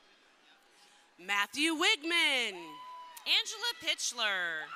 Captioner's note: crowd cheering